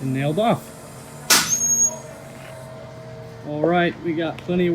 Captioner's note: nail gun firing